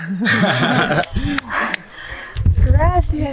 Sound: group laughs

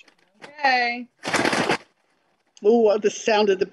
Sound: paper rustling

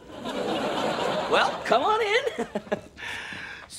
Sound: chuckles

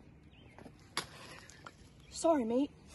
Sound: crashing

